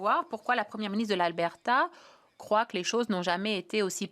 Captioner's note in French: voix de l'interprète